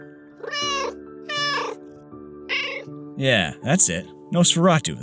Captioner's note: meow